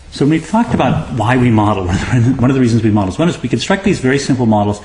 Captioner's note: laugh